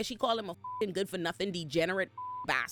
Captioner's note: beep